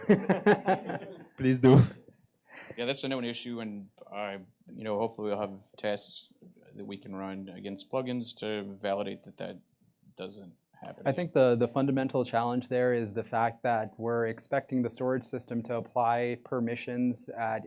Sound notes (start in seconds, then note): 0.0 laughter; 2.2 chuckle